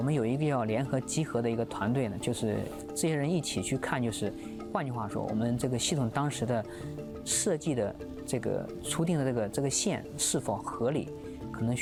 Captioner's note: speaking chinese